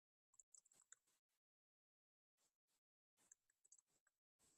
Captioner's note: mouse clicks